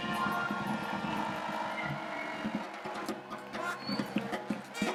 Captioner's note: applause